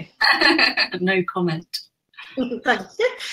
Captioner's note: laughs